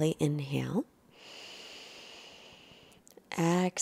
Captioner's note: breathing slowly